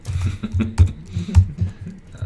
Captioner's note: laughter